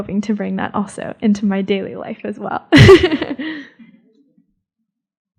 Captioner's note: laughs